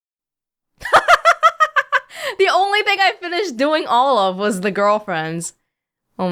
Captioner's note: laughs